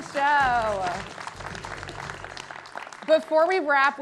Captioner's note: audience clapping